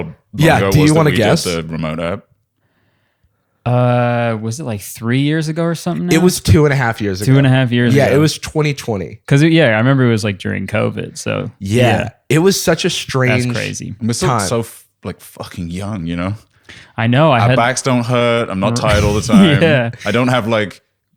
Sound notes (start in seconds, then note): 18.7 laughs